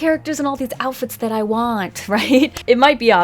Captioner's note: laughs